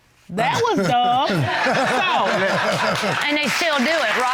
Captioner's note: audience laughing